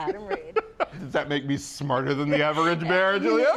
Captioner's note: laughs